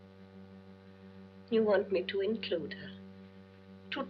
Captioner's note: none